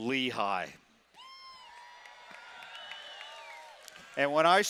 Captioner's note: cheering